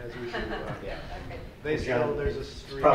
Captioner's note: laughter